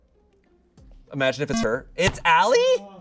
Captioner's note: electronic beep